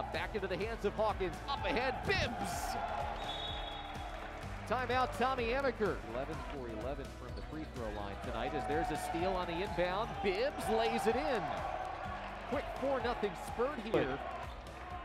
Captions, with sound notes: Back into the hands of Hawkins. Up ahead, Bibbs! [WHISTLES] Timeout, Tommy Amaker. 11 for 11 from the free throw line tonight, as there's a steal on the inbound. Bibbs lays it in. Quick 4-0 spurt here.